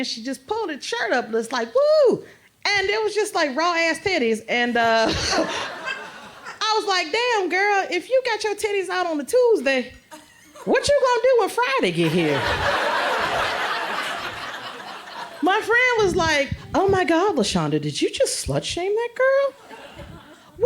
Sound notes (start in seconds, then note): 5.0 laughter; 12.0 crowd laughs